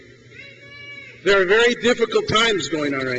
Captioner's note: crowd cheers